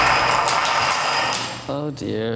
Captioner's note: banging